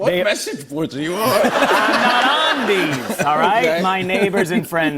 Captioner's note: laughter